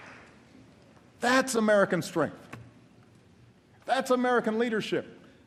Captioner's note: applause